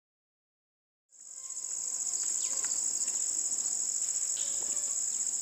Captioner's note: crickets chirping